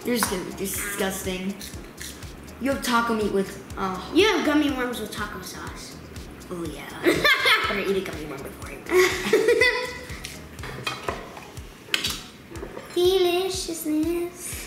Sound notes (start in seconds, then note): 8.8 laughs